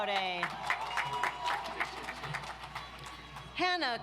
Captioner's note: audience applauds